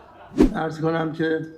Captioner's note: laughter